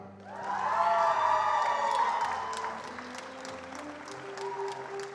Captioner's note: attendees applauding